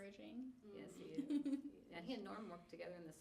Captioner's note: laughing